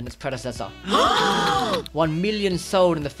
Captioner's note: gasp